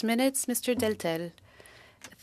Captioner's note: speaking French